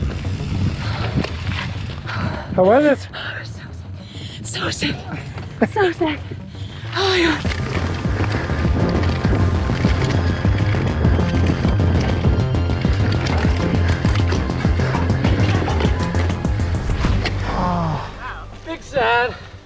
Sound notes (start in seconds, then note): 6.0 breathing heavily; 8.9 upbeat music